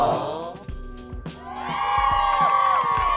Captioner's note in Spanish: Aplausos